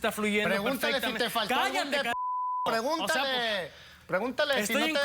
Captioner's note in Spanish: Bip